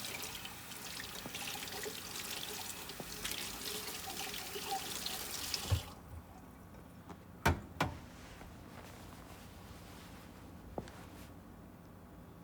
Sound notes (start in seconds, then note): 0.0 water facet running; 10.7 footsteps tapping